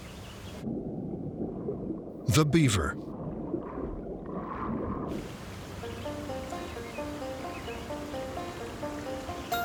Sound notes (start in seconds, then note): 3.0 water bubbling; 6.0 energetic music